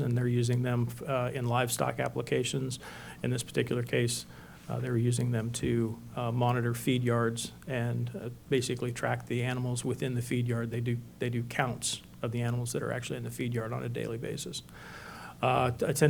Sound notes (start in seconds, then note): none